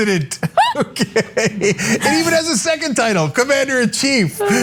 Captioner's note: laugh